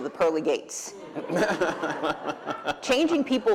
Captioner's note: laughter